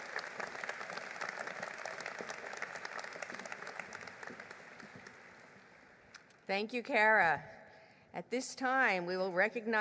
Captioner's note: applause